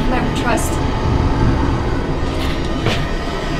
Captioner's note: demon snarls